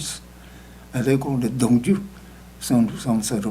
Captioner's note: speaking tibetan